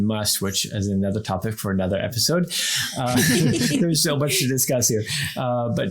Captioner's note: everyone laughs